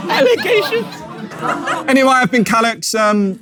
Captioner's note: people in room chuckle